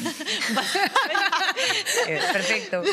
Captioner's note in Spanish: Risas